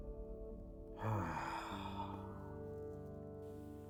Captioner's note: sighs